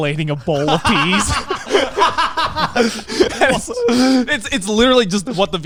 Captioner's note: laughing loudly